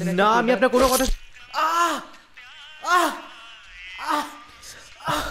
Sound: screams

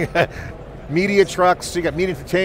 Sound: laughing

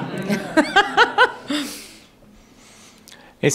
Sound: laughter

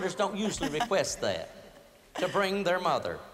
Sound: laughter

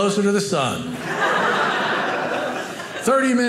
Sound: audience laughing

